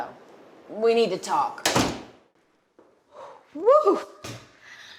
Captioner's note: door slamming